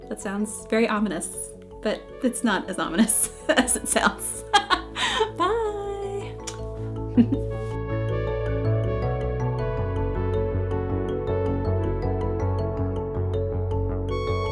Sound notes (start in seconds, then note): 3.0 laughs; 7.5 bright electronic music